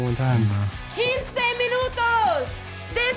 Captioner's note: speaks Spanish